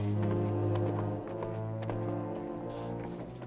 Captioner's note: horse clopping